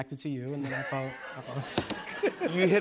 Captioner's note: both laugh